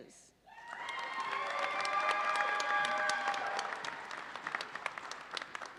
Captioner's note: audience cheers and applauds